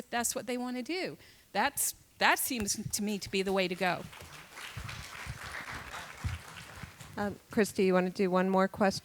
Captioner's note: applause